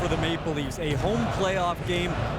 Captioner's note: chanting